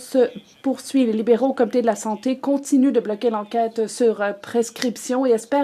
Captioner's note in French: voix de l'interprète